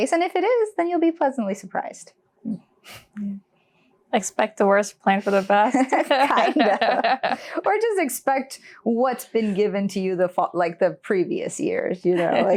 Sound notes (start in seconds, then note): 5.7 laughing